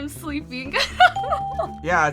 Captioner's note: laughs; bell rings